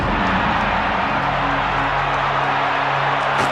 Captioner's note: fans cheering